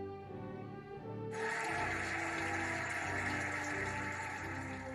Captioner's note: cheering and applauding